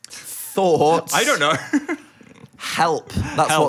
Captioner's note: laughs